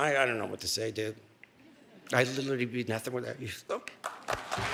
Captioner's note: applause